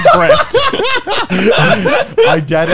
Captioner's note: both laugh